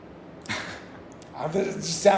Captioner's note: laughs